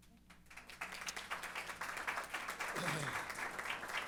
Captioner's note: applause